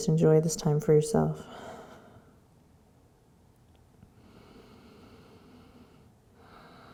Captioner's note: deep breathing